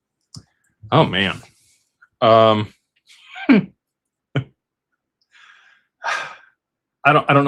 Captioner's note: sighs and gasps